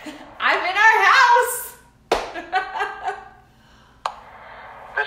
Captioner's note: laughs